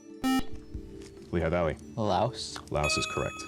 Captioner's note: buzzer